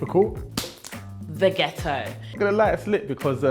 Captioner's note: claps once